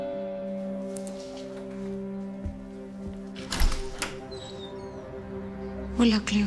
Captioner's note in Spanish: Timbre de la puerta